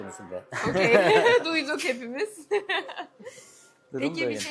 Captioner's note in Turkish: kahkaha